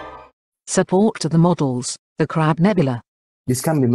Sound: voice-over

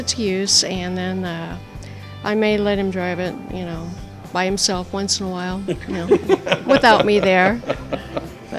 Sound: laughs

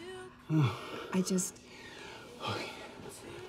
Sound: Charlie sighs

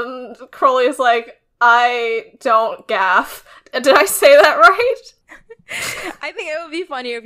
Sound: laughs

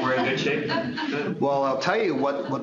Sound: laughter

